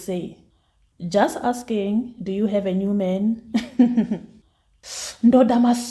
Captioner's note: laughs